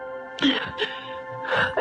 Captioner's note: sobbing